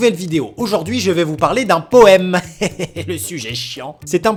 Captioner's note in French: rire